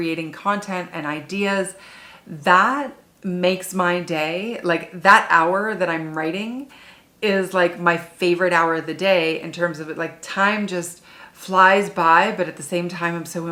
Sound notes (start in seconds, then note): none